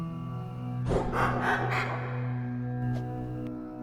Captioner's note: FACEOFF Laugh